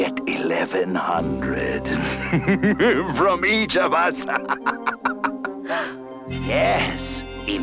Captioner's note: laughs maliciously